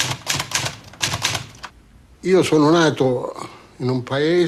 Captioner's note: speaking italian